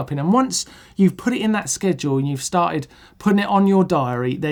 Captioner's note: none